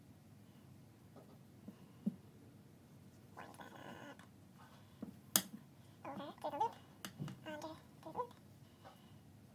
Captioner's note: chipmunk voice